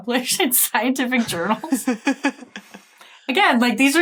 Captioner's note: chuckle